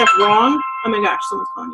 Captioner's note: phone chimes